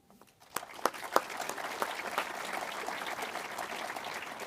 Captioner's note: audience applauds